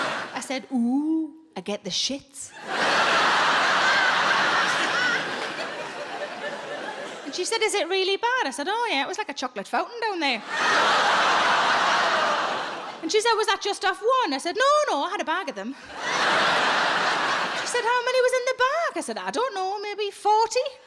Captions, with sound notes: I said, "Ooh, I get the shits". (audience laughing) And she said, "Is it really bad?" I said, "Oh yeah, it was like a chocolate fountain down there". And she said, "Was that just off one?" I said, "No, no, I had a bag of them". She said, "How many was in the bag?" I said, "I don't know, maybe 40."